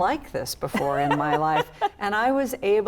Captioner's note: laughs